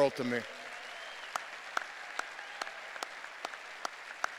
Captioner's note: cheers and applause